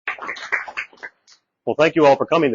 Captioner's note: audience clapping